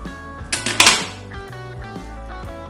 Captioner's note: sound: Door closed